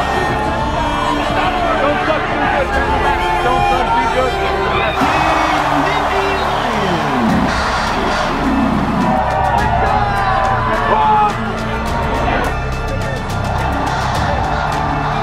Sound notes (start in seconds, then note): 9.6 cheering